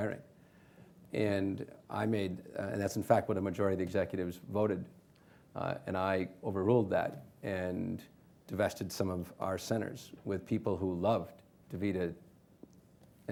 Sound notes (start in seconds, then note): none